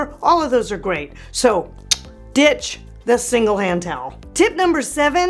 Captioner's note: sucks tooth